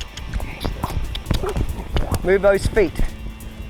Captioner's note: clicks tongue